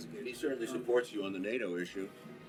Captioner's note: Stone speaking